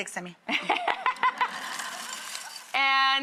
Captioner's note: Tiffany and audience laughing